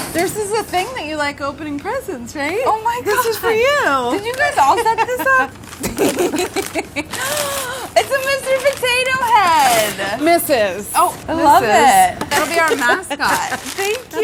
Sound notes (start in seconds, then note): 5.8 laughter